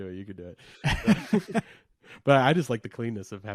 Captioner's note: both laughing